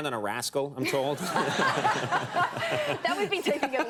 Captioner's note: everyone laughing